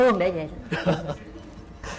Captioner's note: laughs